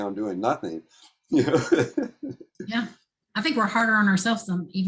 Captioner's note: laughter